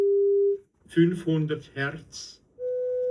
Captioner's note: voice on test record